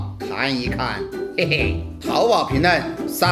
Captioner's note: laugh